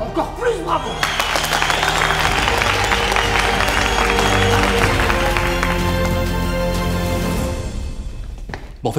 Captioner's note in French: applaudissements, sifflements, musique épique